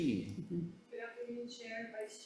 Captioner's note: chuckling